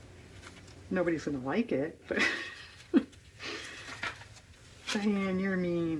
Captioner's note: laughs